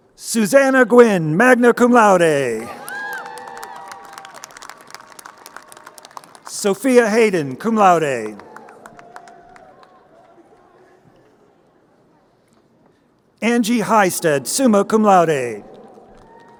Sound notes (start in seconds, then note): 2.6 crowd cheering and applauding